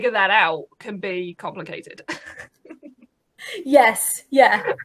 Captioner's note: laughs